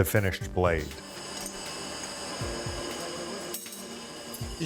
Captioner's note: metal clanking